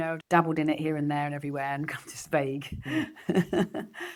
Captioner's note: laughs